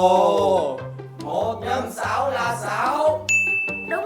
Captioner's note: voice joining